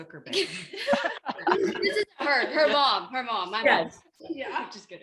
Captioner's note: laughter